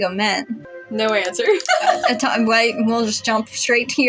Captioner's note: laugh; stammer